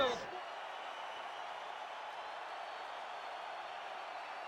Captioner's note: crowd cheering